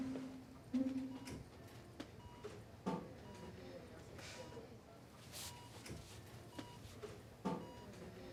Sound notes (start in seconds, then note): 0.7 monitor beeping